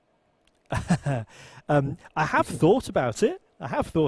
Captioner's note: chuckles